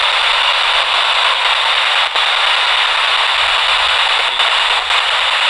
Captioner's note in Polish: Aplauz